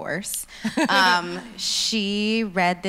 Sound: laughs

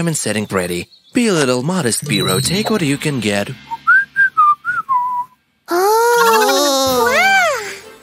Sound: whistles; enthusiastic hum

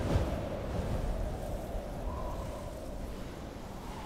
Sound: wind whistling

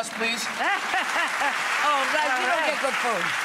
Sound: applause

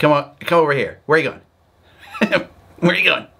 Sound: laughing

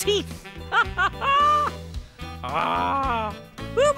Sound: laughs

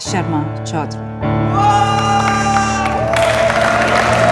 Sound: Adhish hooting

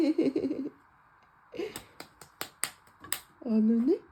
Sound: big brother clapping to cheer his baby sister up

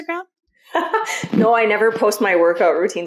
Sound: laughs

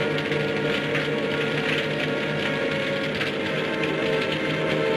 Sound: suspenseful orchestral music; fire crackling

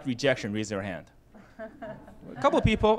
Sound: laughter

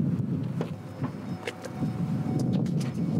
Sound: car beeps

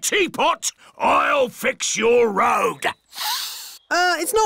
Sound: sniffs

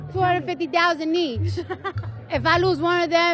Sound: laughs

